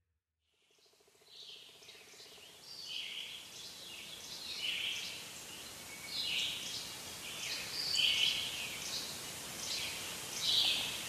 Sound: birds chirping

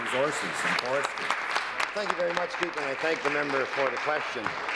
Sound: applause

